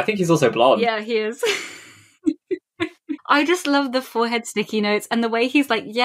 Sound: laughs

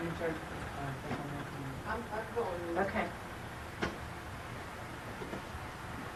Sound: people chattering faintly

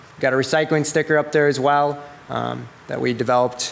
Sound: none

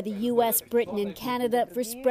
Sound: speaking Alternate Language

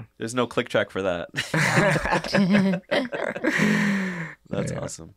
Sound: all laughing

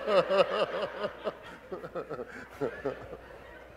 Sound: audience laughing

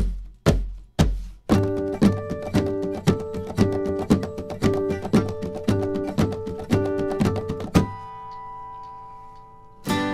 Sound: guitar thumping; thumping and picking; guitar picking and strumming

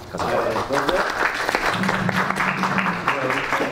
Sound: all applauding

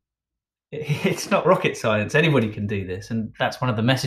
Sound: chuckles

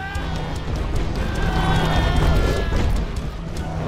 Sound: screaming

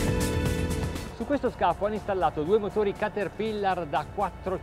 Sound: speaking in foreign language

